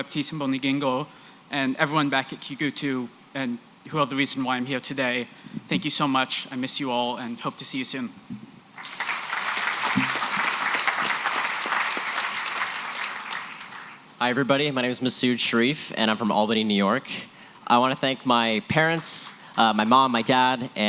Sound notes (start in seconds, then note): 8.7 applause